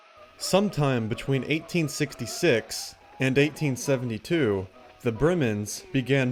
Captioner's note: voiceover